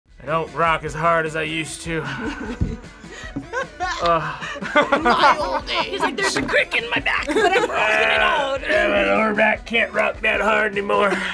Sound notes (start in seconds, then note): 3.2 laughs